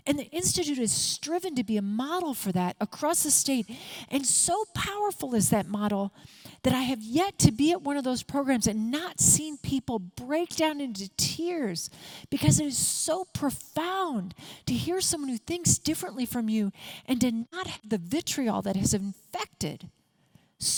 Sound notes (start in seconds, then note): none